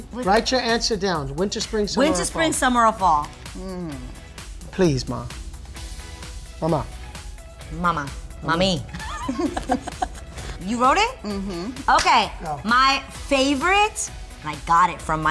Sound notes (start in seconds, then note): 8.9 laughing